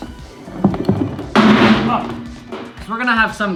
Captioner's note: metal clatters